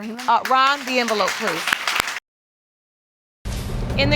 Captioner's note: audience applauding